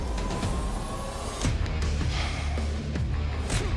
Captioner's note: sighs